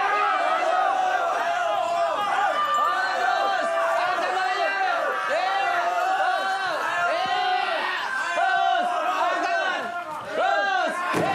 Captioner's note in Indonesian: sorak sorai